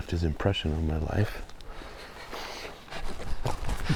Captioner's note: laughing